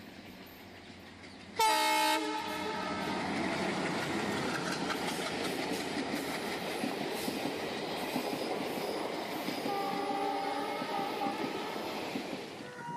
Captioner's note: train Passing